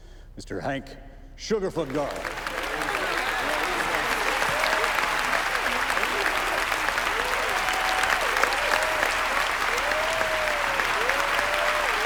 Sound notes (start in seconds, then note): 1.8 crowd applauding; 1.8 crowd cheering